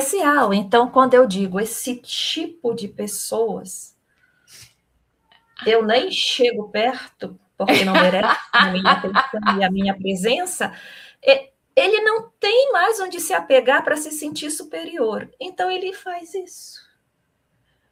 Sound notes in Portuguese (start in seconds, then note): 7.6 risadas